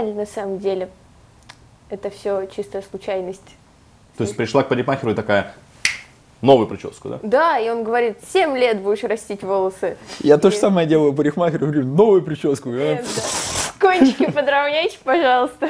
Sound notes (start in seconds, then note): 5.8 snap fingers; 13.8 laughs